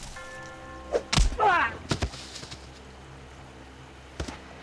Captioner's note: Donovan grunts